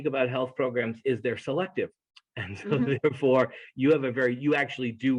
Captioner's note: laugh